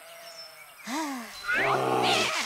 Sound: sighs; bear growls; sheep baas

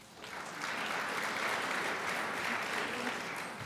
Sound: crowd applauds

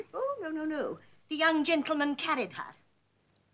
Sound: none

